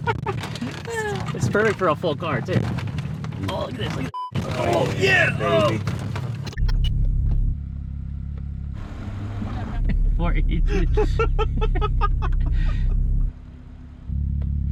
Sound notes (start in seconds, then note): 4.1 beep; 6.4 digital noise; 6.5 engine rumbling; 10.6 both laughing